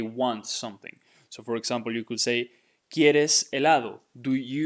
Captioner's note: speaking in Spanish